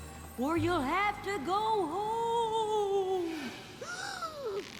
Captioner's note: gasp